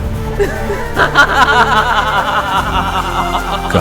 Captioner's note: laugh